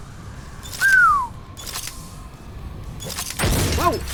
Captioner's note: impressed whistle